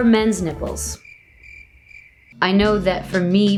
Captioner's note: crickets chirp